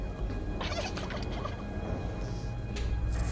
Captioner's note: creepy giggle